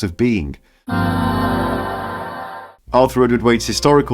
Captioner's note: ahh sound